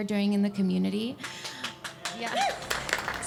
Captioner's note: clapping